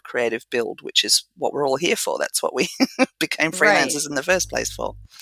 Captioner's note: laugh